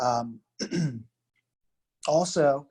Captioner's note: clears throat